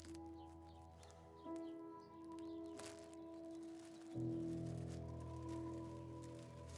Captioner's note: birds chirping; somber music continues